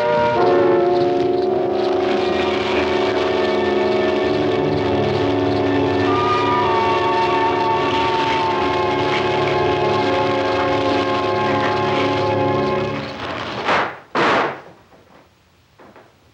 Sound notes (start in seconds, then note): 6.8 fire crackling